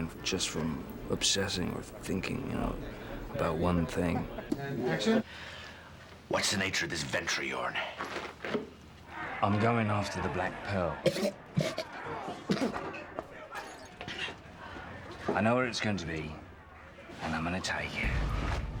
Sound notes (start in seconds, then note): 10.9 coughing